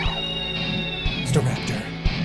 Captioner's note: Staraptor cries